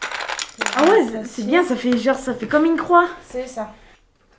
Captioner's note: speaking in foreign language